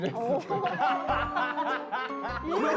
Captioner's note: laughing